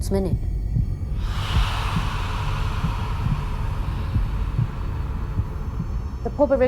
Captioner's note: haunting breathing and heart beating